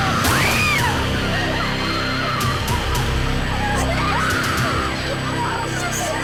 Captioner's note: group speaking in foreign language; women screaming; gun fires